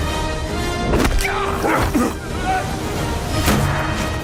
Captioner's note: grunting